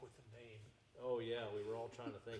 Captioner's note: chuckling